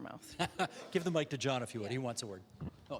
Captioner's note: chuckling